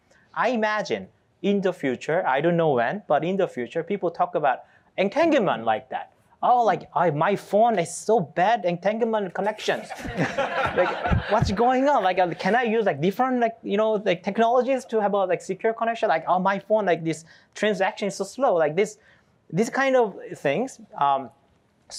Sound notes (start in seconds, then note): 9.6 laughter